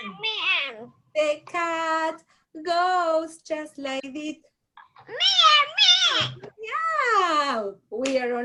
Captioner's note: meow